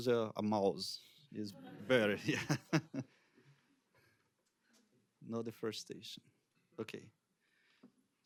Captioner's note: laughs